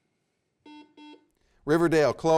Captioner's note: buzzer beeps